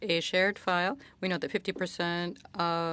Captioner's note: speaking French